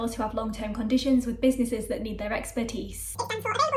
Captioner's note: sped up talking